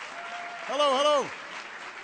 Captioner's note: applause